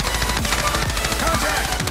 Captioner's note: gun firing